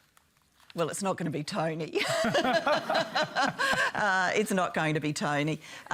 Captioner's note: laughter